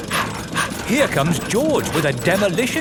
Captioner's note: daddy pig panting